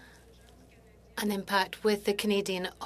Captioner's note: speaking French